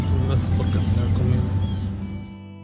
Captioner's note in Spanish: habla en ingés